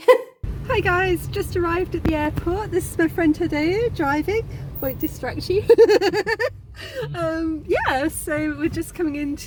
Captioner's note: laughing